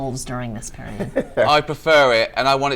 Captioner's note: comedians laugh